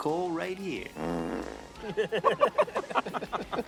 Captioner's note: farts; both laugh